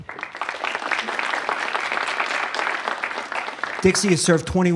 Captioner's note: applause